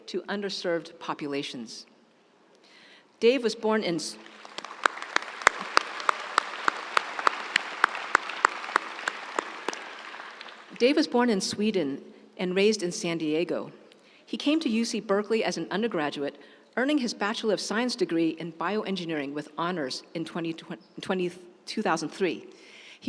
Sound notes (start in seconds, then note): 4.2 audience applauding